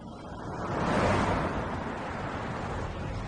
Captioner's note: traffic swooshing